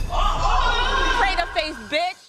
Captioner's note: bystanders gasp